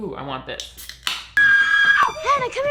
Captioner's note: can pops open; Tess screams